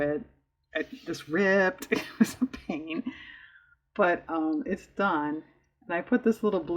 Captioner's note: laughs